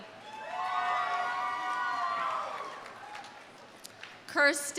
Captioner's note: audience cheering; audience applauding